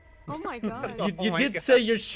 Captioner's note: laughs